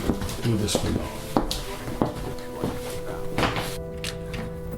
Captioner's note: steps; dramatic music